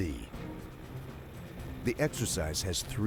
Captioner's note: voiceover